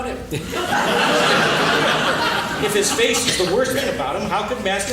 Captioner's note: laughing